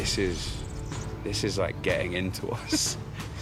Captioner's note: chuckles